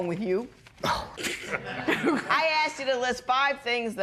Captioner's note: laughter